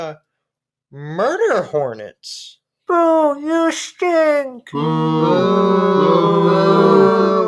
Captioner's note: booing